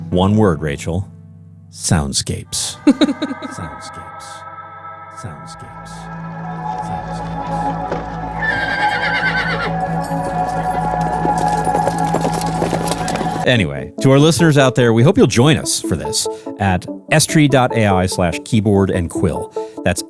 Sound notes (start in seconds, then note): 2.7 laughs; 8.3 horse neighing; 10.4 hooves thudding